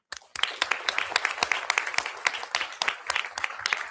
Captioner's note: audience applauding